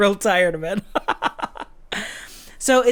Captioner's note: laughs